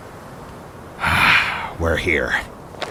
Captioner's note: KIA exhales deeply